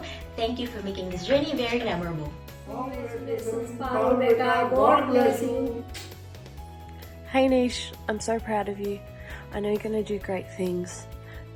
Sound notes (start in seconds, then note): 5.9 kisses